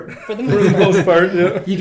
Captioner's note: laughing